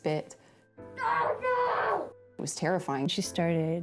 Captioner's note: screams